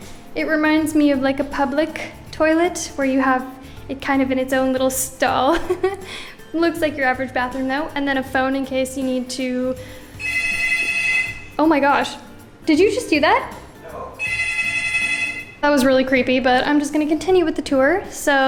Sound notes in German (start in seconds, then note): 5.5 Lacht; 10.2 Telefon klingelt laut; 14.2 Telefon klingelt erneut